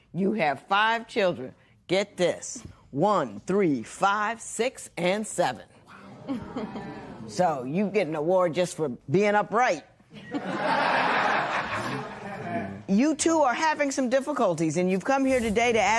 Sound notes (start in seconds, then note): 6.0 spectators murmur; 10.1 laughter